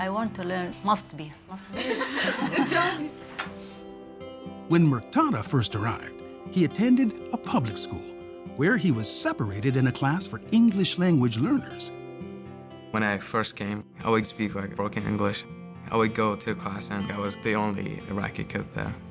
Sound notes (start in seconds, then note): 1.7 laughs